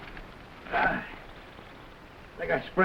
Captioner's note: Hurst grunting